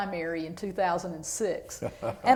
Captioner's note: laughter